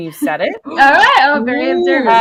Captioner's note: laughs